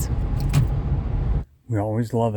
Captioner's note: clasp